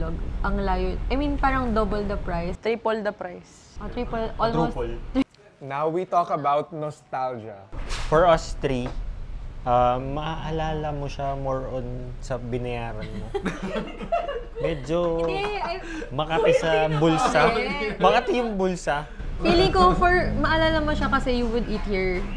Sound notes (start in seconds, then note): 13.0 chuckles